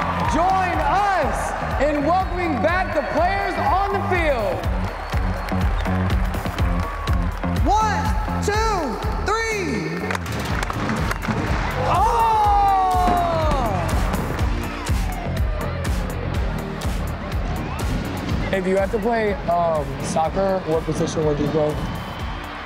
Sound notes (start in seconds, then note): 5.5 crowd applauds; 5.5 crowd cheers; 11.7 fireworks pop; 11.7 shouts; 15.0 crowd applauds; 15.0 light music